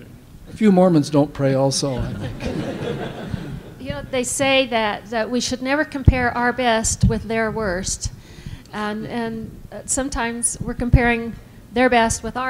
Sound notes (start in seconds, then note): 2.0 laughter